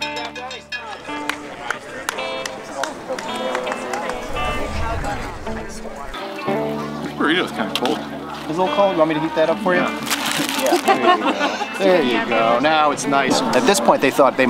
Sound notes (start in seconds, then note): 1.1 guitar music; 10.9 laughs